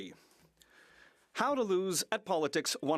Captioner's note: speaking French